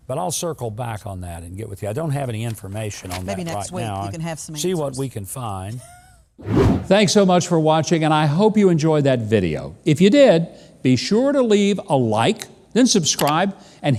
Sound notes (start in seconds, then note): 6.4 air whooshes